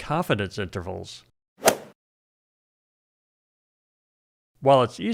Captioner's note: golf swing sound effect